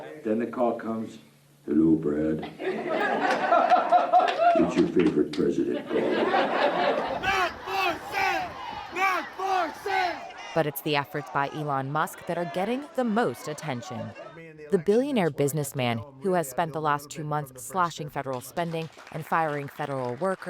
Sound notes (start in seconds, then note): 5.6 laughter